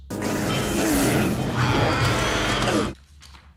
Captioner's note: creature roaring